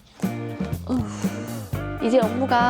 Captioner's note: tired sigh